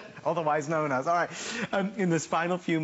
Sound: laughter

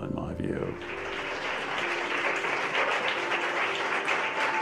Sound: audience clapping

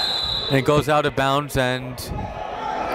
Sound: whistle blows

